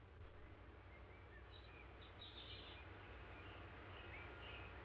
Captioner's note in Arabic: تغريد الطيور